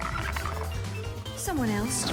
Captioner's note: creature chitters